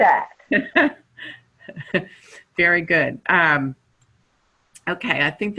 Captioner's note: chuckling